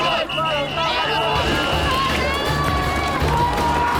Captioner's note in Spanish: Silbatazos de la policía